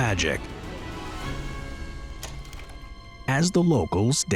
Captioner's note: suspenseful music; tape reeling